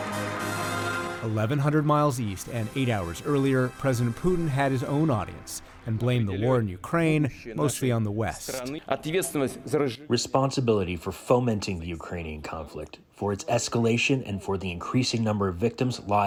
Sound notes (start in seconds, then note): 9.8 through translator